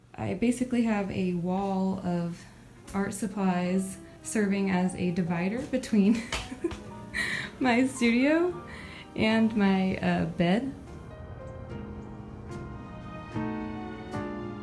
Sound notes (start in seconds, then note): 6.9 laughs